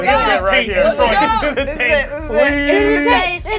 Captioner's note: overlapping enthusiastic chatter